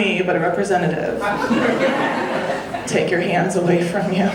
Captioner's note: audience laughing